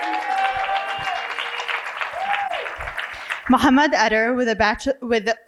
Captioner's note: cheering and applause